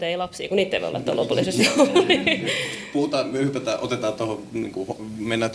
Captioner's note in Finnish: naurua